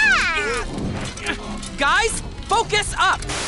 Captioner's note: grunting